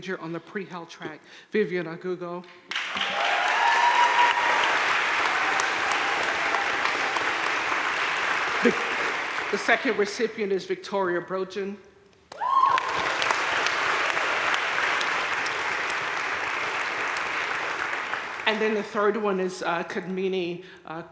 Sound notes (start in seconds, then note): 2.7 crowd cheering and applauding; 12.3 crowd cheering and applauding